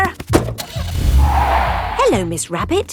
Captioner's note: car starting; tires screeching